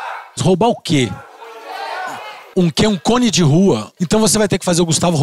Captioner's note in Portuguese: plateia dá sugestões